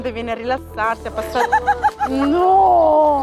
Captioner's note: laughing out loud